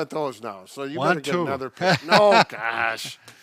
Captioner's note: laughing